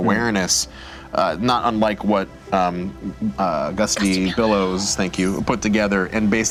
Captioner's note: whispering